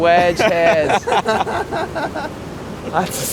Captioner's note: all laugh